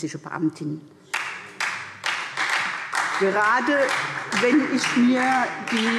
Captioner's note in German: Beifall SPD